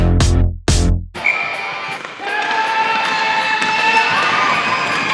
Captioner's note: crowd cheering